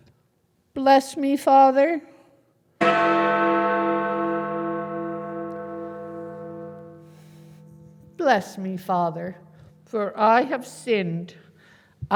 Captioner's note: bell rings